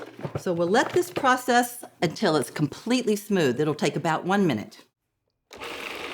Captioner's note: processor whirring